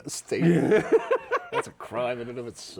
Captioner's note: laughing